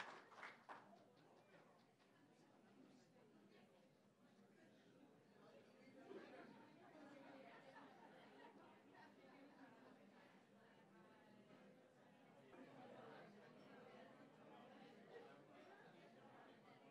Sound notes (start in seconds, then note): 0.0 applause; 1.1 general chatter